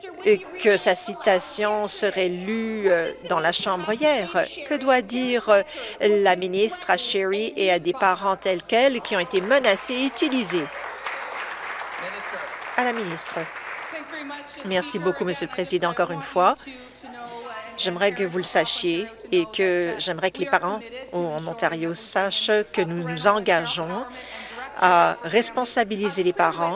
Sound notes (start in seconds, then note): 11.4 applause